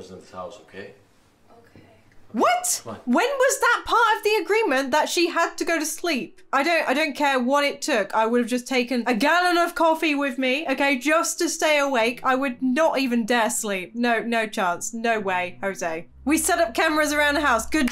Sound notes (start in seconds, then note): none